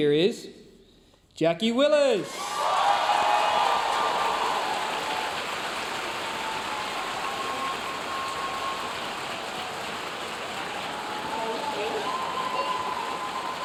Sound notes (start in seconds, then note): 2.4 audience cheering and applauding